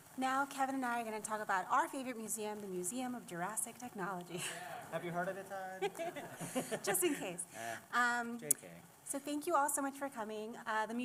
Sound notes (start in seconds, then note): 5.8 laughter; 5.8 laughs